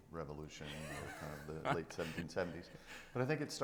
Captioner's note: laughing